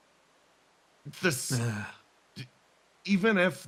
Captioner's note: Etete Sighs